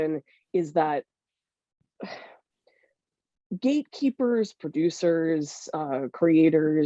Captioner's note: sighs